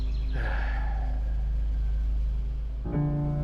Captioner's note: sighs loudly